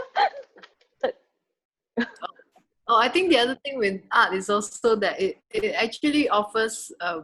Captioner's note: laughter